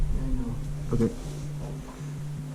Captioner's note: quietly